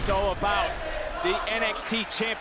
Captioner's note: crowd chants "this is awesome"